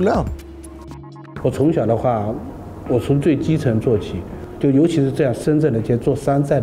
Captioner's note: speaking in Chinese